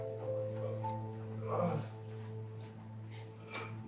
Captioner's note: somber music; Edward groans